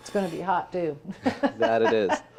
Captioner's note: laughs